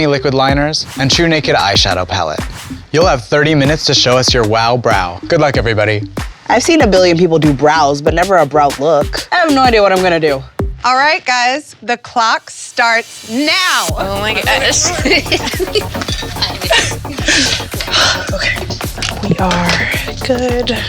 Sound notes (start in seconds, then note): 14.8 chatter, giggling; 17.9 sigh